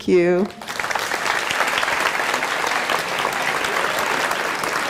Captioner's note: applause